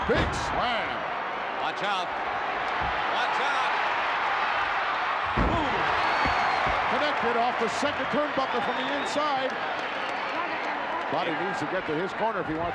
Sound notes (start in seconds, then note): 4.1 crowd yelling